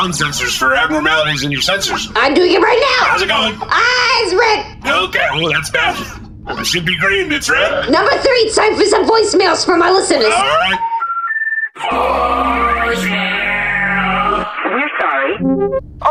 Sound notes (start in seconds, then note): 12.1 dial up sound